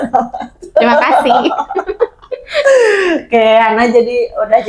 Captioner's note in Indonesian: tertawa; terkesiap